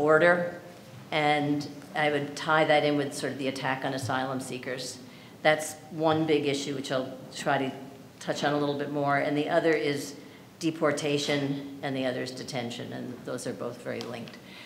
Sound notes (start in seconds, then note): none